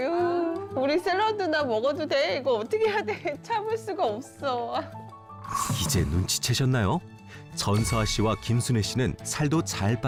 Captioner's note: voiceover